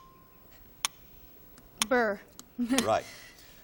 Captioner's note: clock ticking